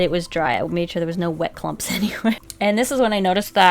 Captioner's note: laughs